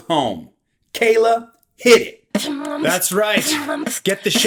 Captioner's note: beatboxing